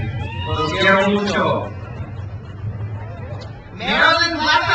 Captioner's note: speaks in foreign language